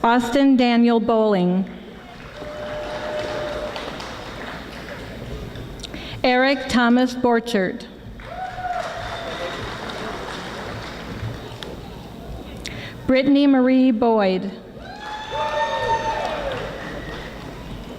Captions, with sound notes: Austin Daniel Boling. (audience applauding) Erik Thomas Borchert. (audience applauding) Brittanie Marie Boyd. (audience applauding)